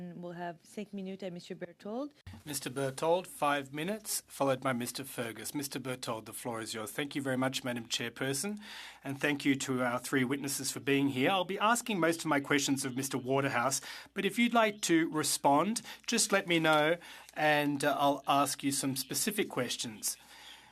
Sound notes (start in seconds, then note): 16.7 speaking French